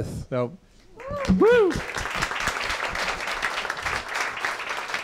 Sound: cheers and applause

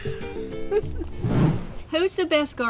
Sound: whoosh

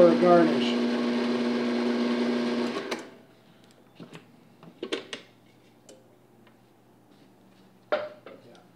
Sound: robot coupe whirring

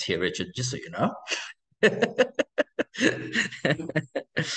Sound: laughing

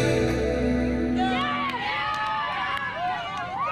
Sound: cheers and applause

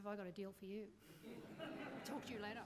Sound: laughing

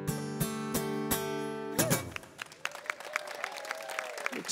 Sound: applause

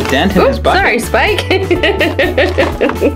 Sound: laughs

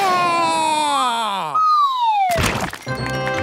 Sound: screams

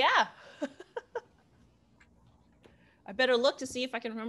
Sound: laughter

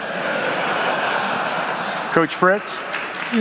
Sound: audience laughs

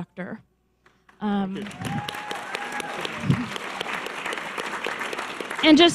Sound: audience cheers and applause

